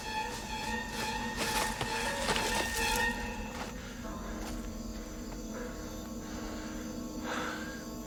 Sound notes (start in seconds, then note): 3.9 panting